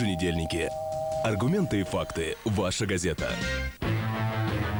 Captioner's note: doorbell